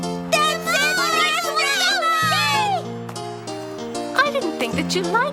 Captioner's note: triplets cheering